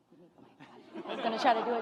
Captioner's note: graduates chattering; graduates laugh